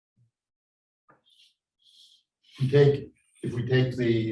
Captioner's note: chalk scrapes softly